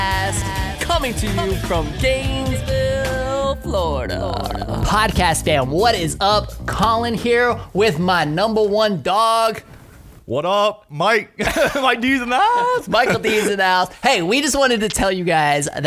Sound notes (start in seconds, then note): 3.3 upbeat music; 11.4 laughing